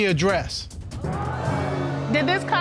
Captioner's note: audience gasping